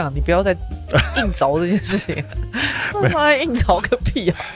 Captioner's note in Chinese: 哈哈哈